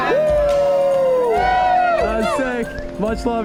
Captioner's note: cheering